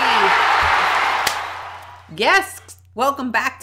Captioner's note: applause; clap